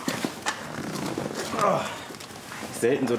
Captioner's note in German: Er stöhnt